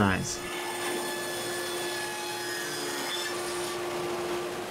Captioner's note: machine whirs